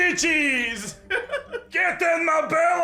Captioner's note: scottish accent intensifies